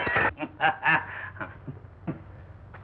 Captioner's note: laughing